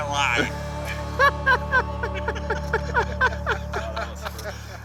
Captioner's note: laughing